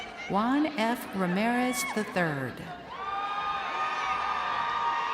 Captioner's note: crowd cheering